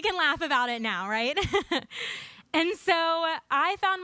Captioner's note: audience laughing